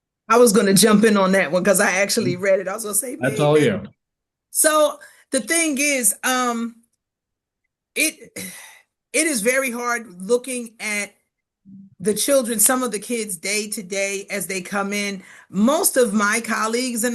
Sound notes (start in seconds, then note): 3.2 chuckles; 7.2 exhales